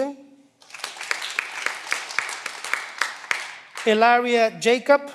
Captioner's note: cheering